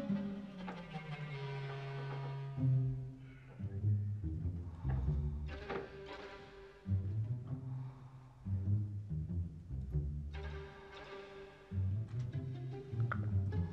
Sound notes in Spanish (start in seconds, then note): none